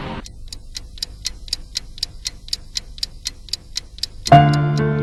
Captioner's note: tick-Tock